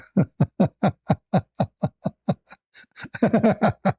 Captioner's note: laughter